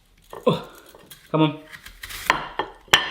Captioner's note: grunts